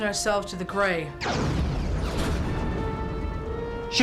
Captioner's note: explosion